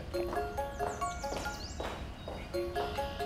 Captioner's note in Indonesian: Dering telepon